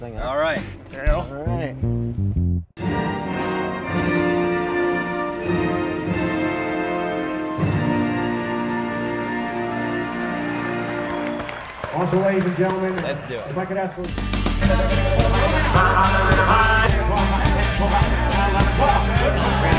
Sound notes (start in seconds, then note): 9.3 audience applauding; 12.4 voiceover; 13.4 upbeat music; 15.8 auctioneers and bidding assistants yelling